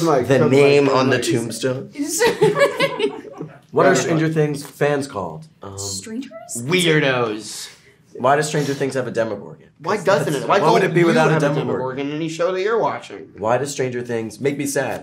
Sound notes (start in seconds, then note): 2.0 all laugh